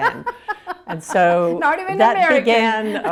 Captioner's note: laughing